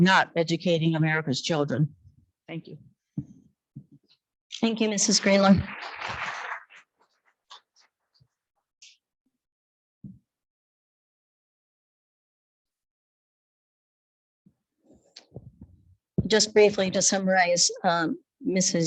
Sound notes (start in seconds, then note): 4.6 attendees clapping